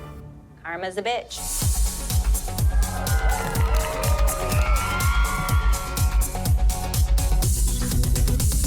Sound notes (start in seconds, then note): 2.6 cheering